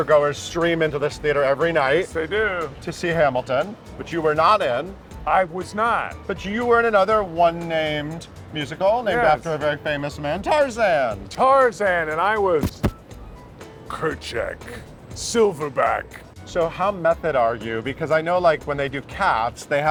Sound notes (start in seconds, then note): 12.7 chest pounding